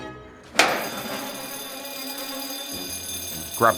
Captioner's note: alarm bell rings